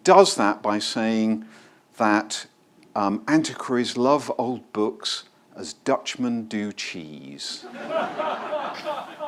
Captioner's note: laughter